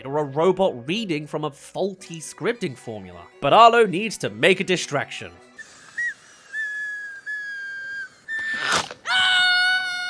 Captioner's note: whimper* *Screams